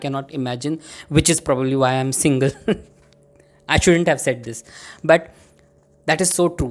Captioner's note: giggles